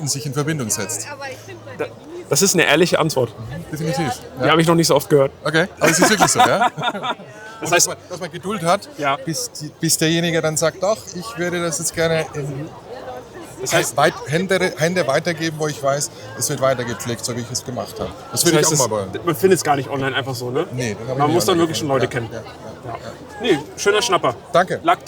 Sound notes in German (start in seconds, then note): 5.8 gelächter